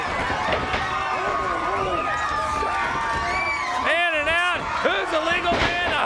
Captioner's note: crowd cheering